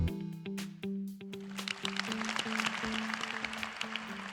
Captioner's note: applause